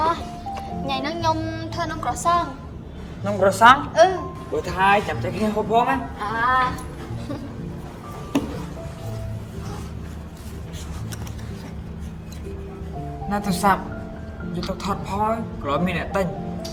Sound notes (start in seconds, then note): 6.2 agreeing playfully